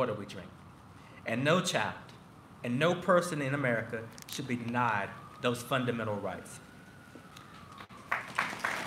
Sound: applause

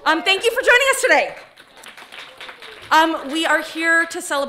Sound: audience applauding

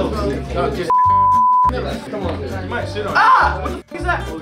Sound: beep

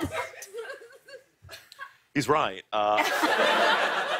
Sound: laughter

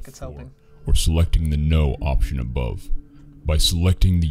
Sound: voice-over

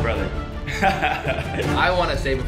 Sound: laughs

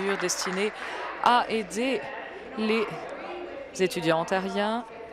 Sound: applause

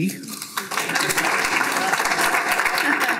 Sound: applause

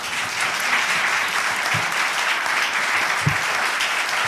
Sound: applause

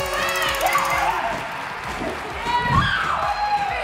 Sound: screaming

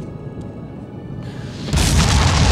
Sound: gasps

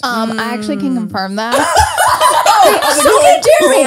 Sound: everyone laughs

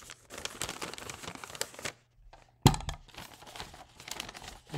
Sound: filter crinkling

